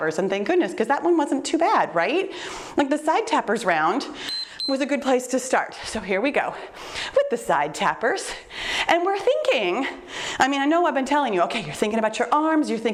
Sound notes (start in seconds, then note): 4.2 timer beeps